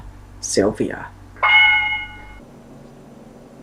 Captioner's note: correct answer sound effect